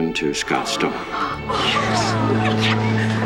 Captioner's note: people gasp